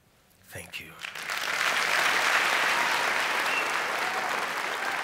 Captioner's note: applause